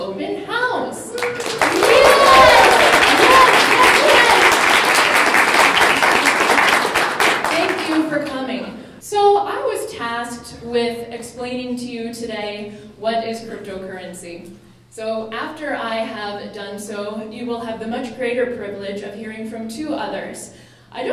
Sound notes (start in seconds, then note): 1.1 clapping